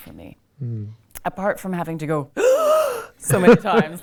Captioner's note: gasps